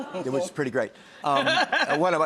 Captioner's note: laughter